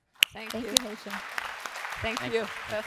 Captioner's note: applause